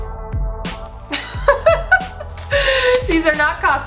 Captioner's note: laughs